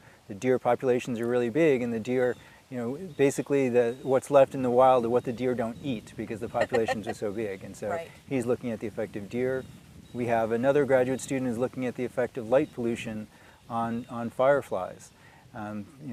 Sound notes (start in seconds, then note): 6.5 laughing